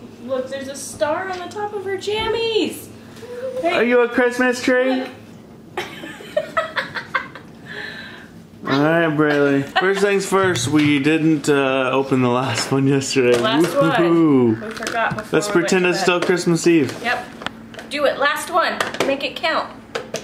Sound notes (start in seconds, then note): 5.8 laughing